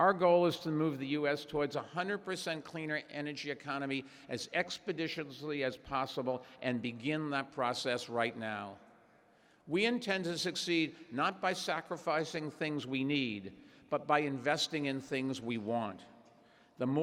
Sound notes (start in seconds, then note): none